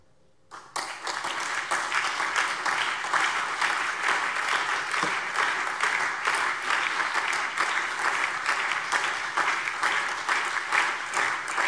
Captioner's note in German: Anhaltender lebhafter Beifall